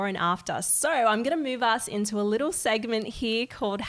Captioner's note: none